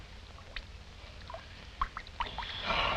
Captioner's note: water trickling